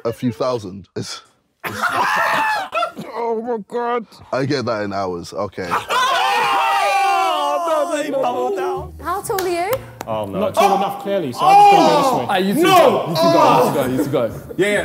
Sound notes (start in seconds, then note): 1.6 Sidemen laughing; 5.7 Sidemen yelling